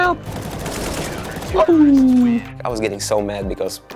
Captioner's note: gun fires